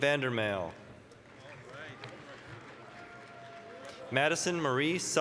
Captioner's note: applause, cheering